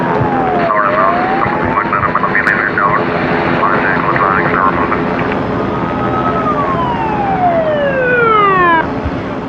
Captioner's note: radio ctter